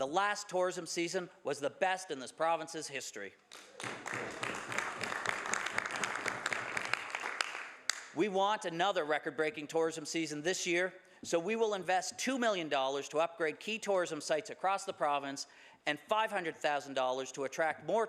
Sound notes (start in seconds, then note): 7.2 some Applause